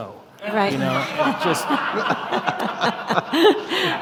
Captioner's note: all laughing